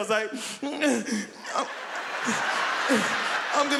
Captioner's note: both laughing again